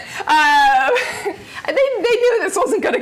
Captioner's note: laughter